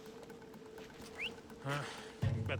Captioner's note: whistle